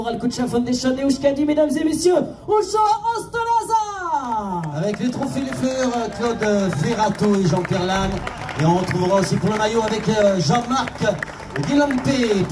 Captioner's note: race speakers presenting on the podium in French